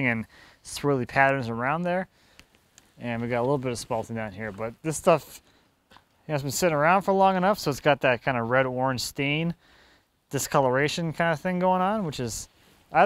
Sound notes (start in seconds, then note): none